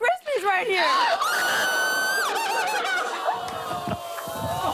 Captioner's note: screams